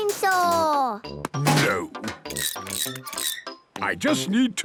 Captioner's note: wrenching, squeaking